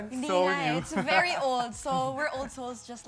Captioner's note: laughs